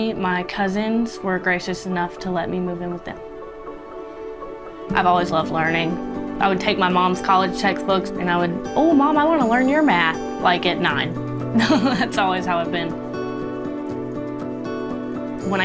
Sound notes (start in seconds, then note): 11.5 chuckles; 13.3 inspirational music continues